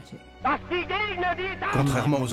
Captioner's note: German spoken audio